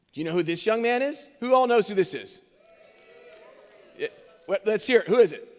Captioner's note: cheers